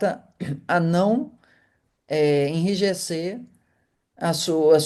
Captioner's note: clearing throat